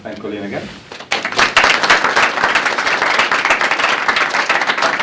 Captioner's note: applause